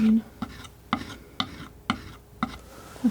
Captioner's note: scratching